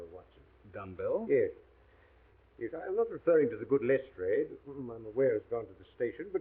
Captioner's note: none